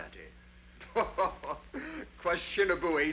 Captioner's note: Rawdon laughs